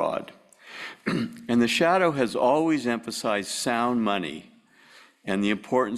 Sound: cough

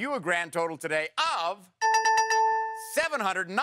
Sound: dings

